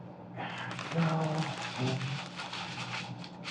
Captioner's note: paper crumples